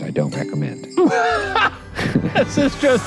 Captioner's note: laughing